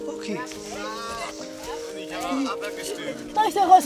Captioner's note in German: Stimmengewirr